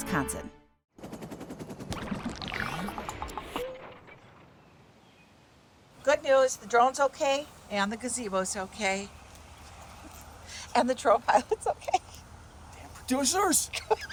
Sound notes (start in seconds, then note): 1.0 gentle whirring